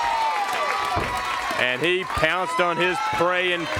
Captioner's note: crowd cheering